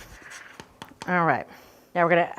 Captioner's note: lemon thumping